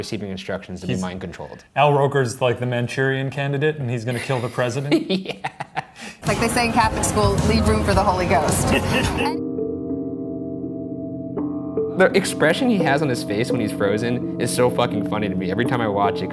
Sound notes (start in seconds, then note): 4.1 laughs; 9.3 mystery music